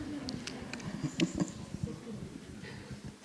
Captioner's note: laughing